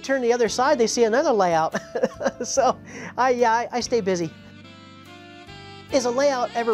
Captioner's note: laughs